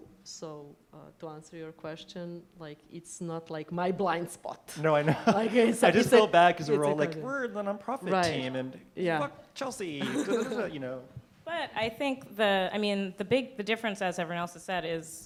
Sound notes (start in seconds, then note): 5.0 laughter